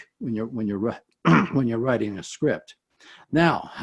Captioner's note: clears throat